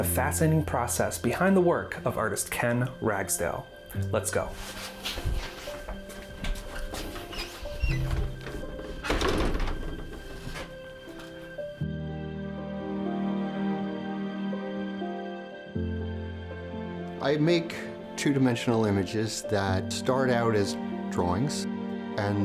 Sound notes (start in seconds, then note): 6.8 gentle music; 7.7 door closes; 7.7 door opens